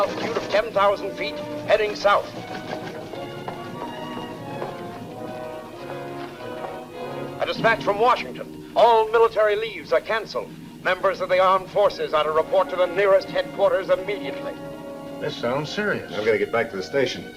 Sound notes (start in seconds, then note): 2.8 footsteps tapping